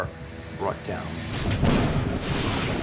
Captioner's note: thunder crashing